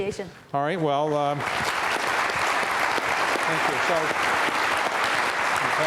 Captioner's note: audience applaud